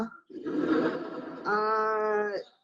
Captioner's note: audience laughing